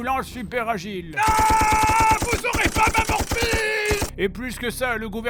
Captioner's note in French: tirs